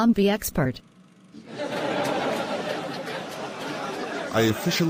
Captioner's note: laughter